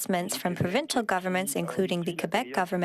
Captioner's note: speaking French